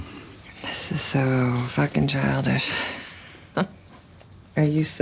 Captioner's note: laughs